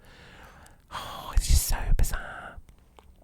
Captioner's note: sighs